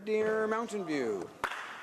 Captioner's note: some Applause